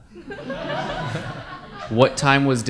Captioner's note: audience laugh